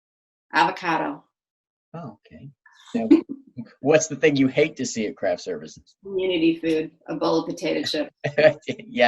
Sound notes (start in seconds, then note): 3.0 laughs